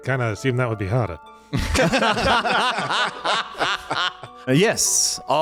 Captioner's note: laughing